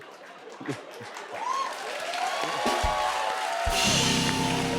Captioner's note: laughter; cheers and applause; drumroll